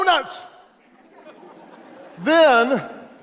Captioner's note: audience laughs